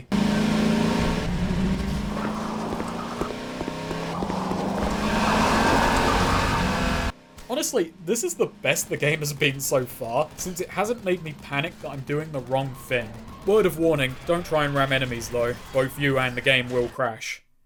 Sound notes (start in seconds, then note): 0.1 buggy engine noise; 4.6 buggy turbo noise